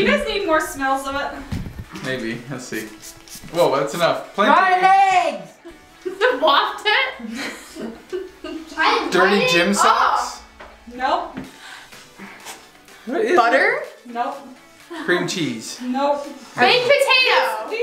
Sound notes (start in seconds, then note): 7.2 laughs